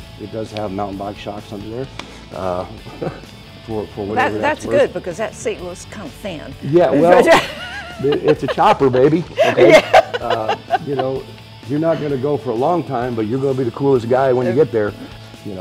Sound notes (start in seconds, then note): 10.2 laughing